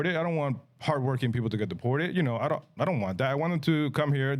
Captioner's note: none